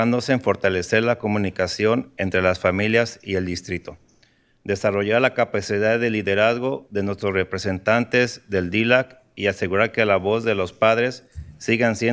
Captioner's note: speaking in spanish